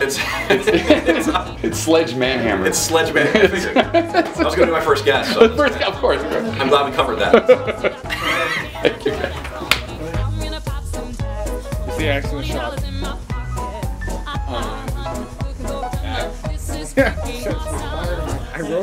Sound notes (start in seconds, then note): 7.2 laughter